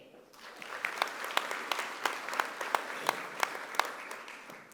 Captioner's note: audience applauding